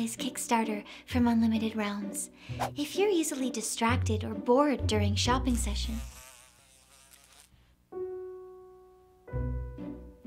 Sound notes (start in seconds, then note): 5.2 fly buzzing